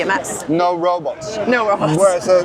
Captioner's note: laughs